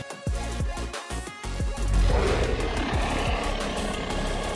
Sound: animals growl

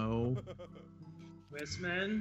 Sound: laugh

